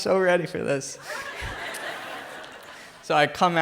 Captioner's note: crowd laughs